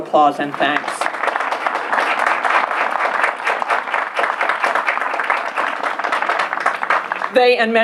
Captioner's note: applause